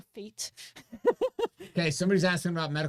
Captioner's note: laughs